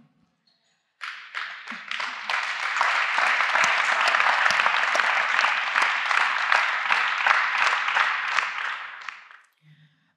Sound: applause

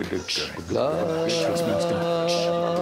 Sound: making cooing noise

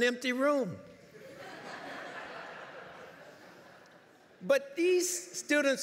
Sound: laughter

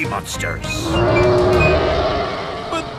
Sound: roaring

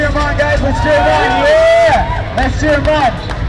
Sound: whooping and cheering

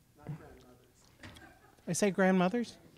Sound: chuckling

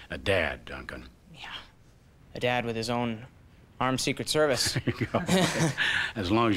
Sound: chuckles

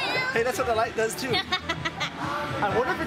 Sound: laughs

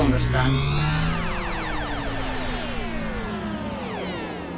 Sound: electronic buzzing

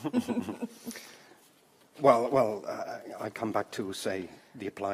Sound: chuckles

